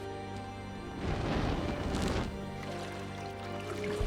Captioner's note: fire roaring